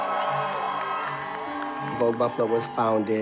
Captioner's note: audience applauds